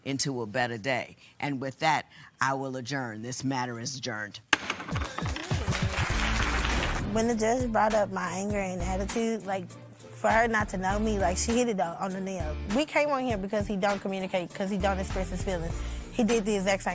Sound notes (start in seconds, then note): 4.5 gavel bangs